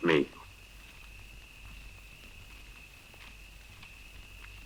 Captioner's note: insects chirring